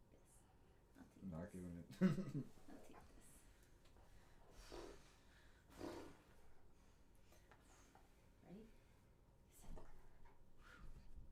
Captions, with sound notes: - I'm not giving it. (laughing) - Ready? Set, go.